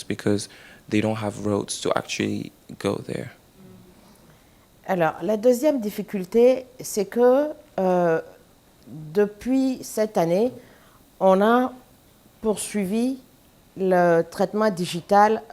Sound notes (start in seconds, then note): 10.5 speaking french